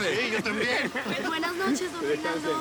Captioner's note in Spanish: Risas